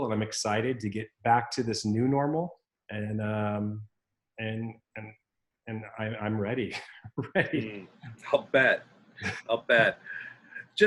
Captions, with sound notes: And I'm excited to get back to this new normal and I'm ready, (laughs) ready. - I'll bet. I'll bet.